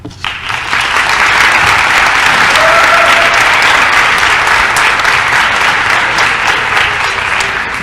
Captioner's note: applause